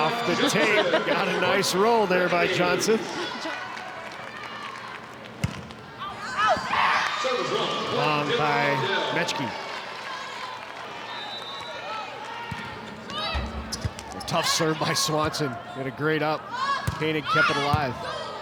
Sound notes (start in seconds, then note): 5.4 ball thumping; 6.2 audience cheering; 11.1 whistle blowing; 13.2 ball thumping